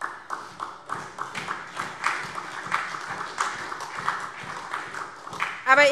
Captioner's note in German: Beifall SPD und DIE LINKE